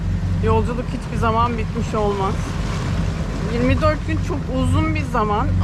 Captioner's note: engine sound